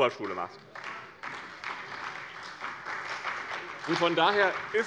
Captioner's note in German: Beifall bei dem BÜNDNIS 90/DIE GRÜNEN und der CDU